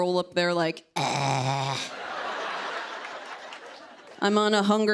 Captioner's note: growling